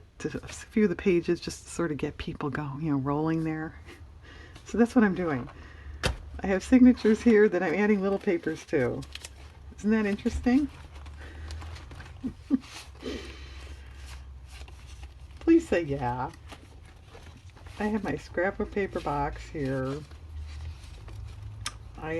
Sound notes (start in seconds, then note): 12.1 laughs